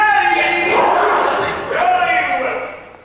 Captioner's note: Americans growl and aim guns